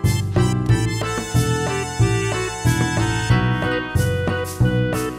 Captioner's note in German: nervöses Rauchen